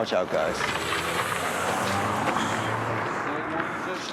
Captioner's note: engine rumbling